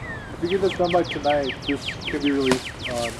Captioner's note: wind crackling